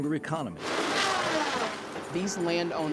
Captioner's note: saw whirring